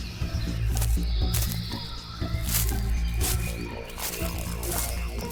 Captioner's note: grass crunching